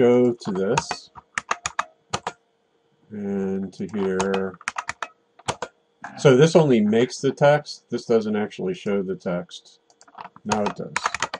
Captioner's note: typing